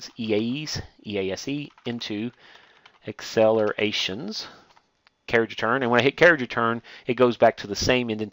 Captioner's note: typing